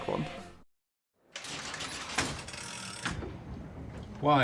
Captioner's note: cranking noise